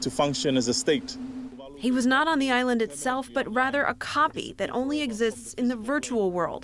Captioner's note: voice-over